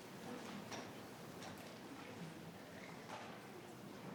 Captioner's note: people murmuring